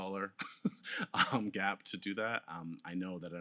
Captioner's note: laughs